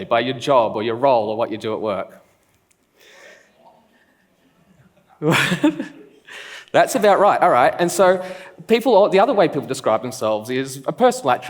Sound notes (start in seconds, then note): 4.6 laughs